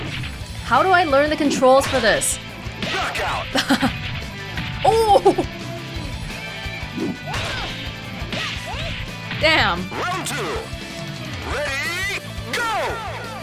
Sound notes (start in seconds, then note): 4.8 chuckles